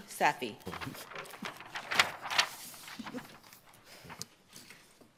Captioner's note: paper rustling